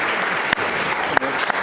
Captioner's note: applause